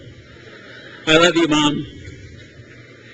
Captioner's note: crowd laughs